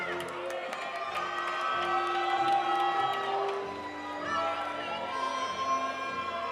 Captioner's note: audience applauding; audience cheering